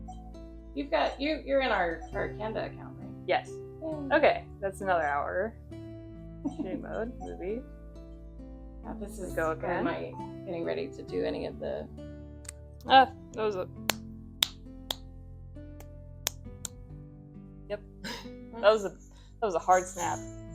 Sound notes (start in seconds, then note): 6.4 mumbles to self; 7.3 snaps to synch audio; 11.7 more audio synch snaps